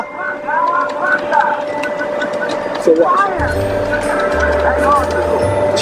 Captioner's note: video game sound effects